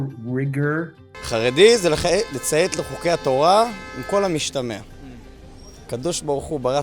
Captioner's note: interviewee speaking in foreign language